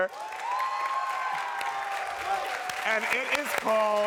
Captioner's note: crowd cheering